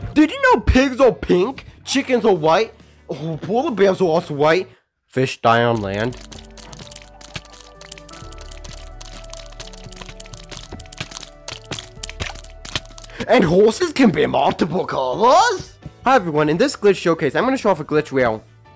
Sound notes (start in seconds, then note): 6.7 dying Fish Noises Play